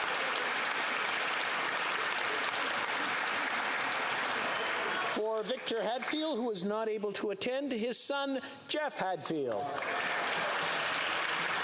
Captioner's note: applause